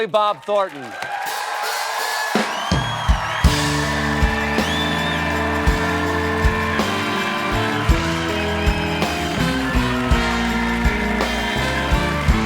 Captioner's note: cheers and applause